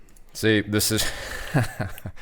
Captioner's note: laughing